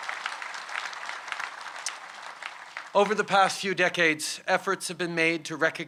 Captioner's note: applause